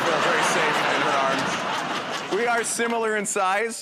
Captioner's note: laughter